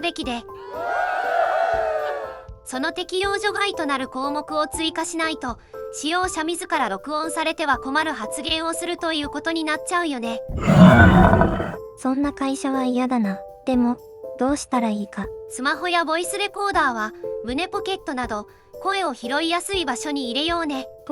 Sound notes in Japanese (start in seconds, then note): 0.6 歓声; 10.5 怪獣の唸り声のような音